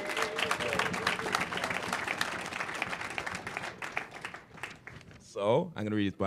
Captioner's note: applause